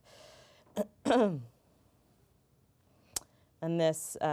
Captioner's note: clears throat